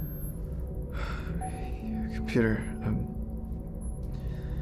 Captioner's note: sighs